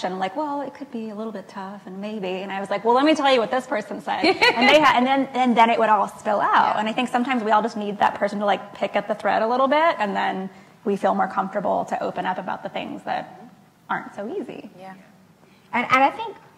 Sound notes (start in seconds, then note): 5.4 laughs